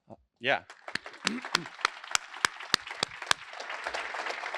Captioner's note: applause